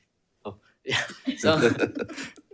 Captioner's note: chuckles